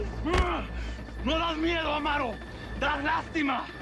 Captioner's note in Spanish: Golpes